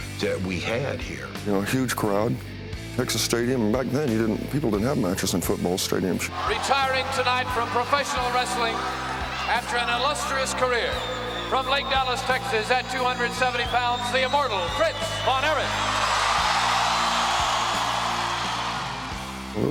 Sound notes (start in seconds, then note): 16.8 crowd cheering